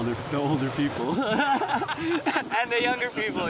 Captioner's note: laughs